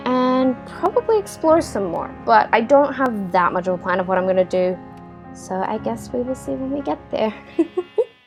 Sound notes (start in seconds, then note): 7.5 laughter